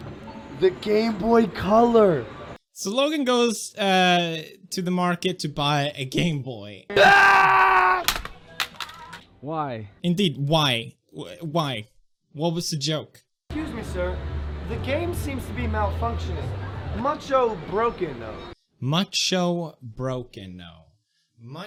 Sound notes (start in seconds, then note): 6.9 yells